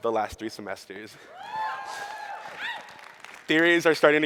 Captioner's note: audience cheers